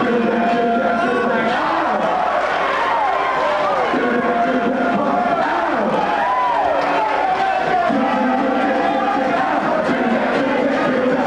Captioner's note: commentator speaking; crowd cheering; commentator speaking; crowd cheering